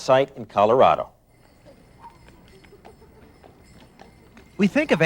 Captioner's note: horse clopping